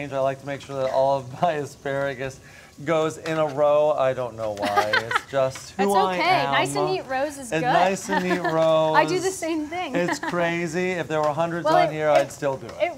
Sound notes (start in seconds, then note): 4.6 laughs; 7.8 laughs